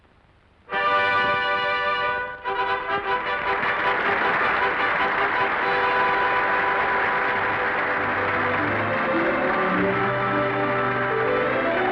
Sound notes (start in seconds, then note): 0.8 audience applauding; 0.8 triumphant music